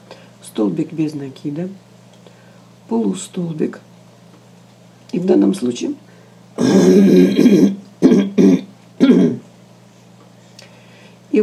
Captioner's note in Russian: откашливается; кашель